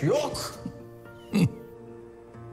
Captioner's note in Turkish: Gülüyor